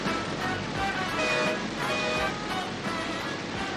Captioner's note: horn Honking